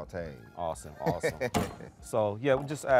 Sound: host laughing

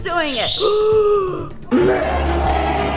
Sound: intense music; gasps

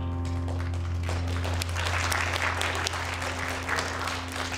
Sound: audience applauding

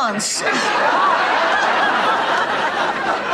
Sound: Blanche bursts out laughing; audience laughter intensifies

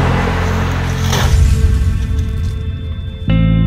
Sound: impact

